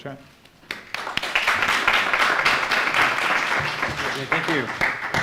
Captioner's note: applause